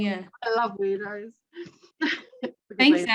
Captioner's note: chuckles